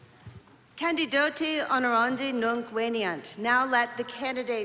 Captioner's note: non-english speech